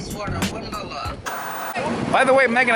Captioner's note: white noise scratching